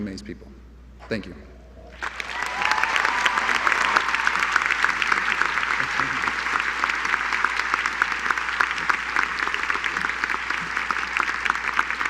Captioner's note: applause